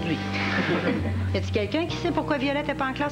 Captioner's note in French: Rires dans la classe